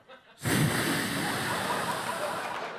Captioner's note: blows the mic; audience laughing